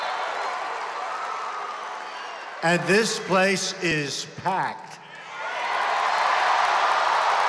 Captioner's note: applause